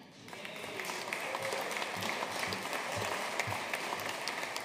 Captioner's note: audience applauding